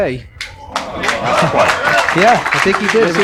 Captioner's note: applause